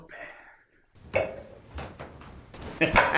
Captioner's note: sound of plates being set; excited laugh